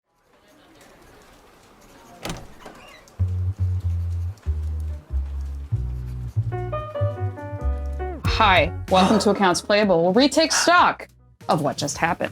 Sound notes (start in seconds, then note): 0.1 muffled crowd noise; 2.1 door creaks; 3.1 soft Jazz